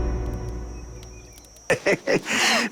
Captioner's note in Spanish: Risas